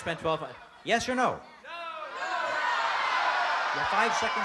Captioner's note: audience yelling